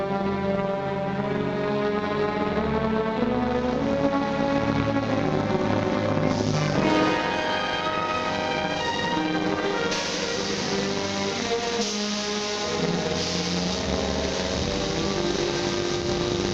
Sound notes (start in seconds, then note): 10.3 steam hissing